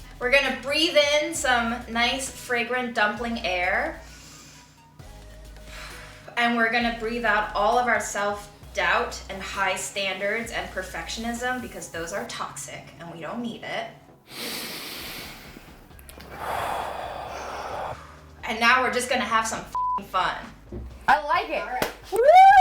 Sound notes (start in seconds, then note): 14.2 deep inhaling; 14.4 deep exhaling; 22.2 woos